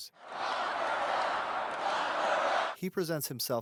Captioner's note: crowd chanting: "Lock her up!"